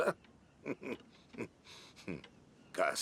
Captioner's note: chuckling